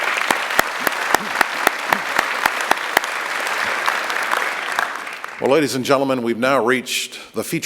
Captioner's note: applause